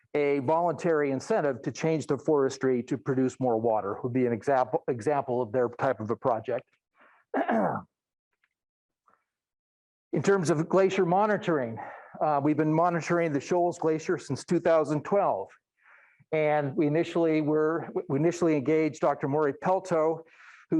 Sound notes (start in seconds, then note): 7.3 clears throat